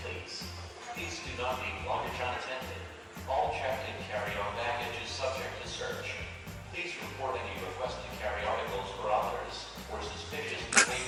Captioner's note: airport PA; laughs